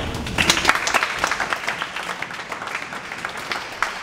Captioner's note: audience applauds